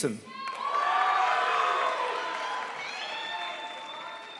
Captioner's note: crowd applauds